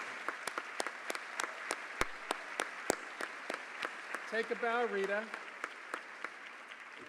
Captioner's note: applause